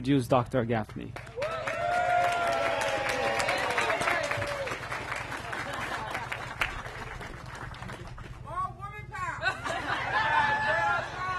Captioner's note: applause